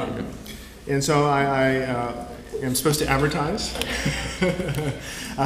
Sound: laugh

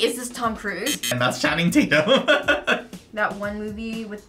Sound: buzzer; laughs

